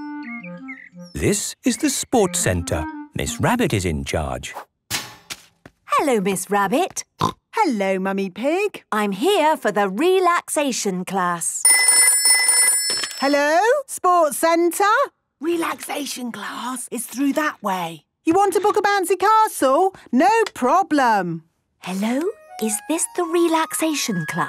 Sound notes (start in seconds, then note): 6.4 snorting; 11.6 phone ringing